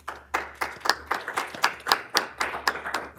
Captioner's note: applause